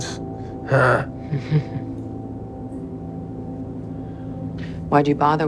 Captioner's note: chuckles